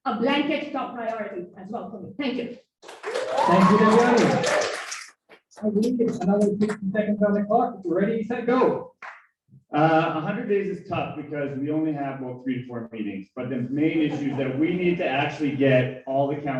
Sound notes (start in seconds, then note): 12.0 applause